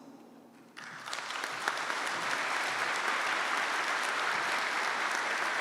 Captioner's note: audience applauding